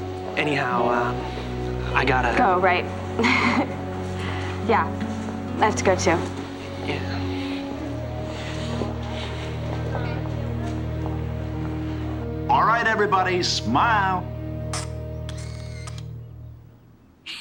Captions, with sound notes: Anyhow, I gotta... Go, right? (CHUCKLES) Yeah, I have to go too. Yeah. All right, everybody. Smile! (CAMERA CLICKS)